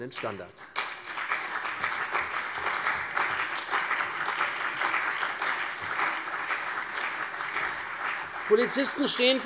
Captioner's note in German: Beifall CDU und BÜNDNIS 90/DIE GRÜNEN